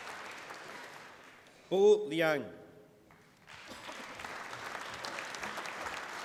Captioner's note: applause